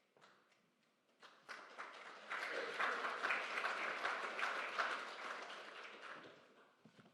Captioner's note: applause